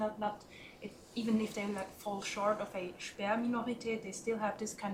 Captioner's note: german